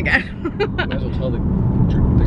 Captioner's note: giggles